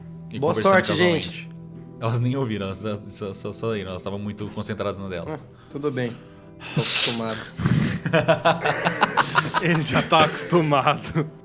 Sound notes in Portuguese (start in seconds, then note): 7.6 Risadas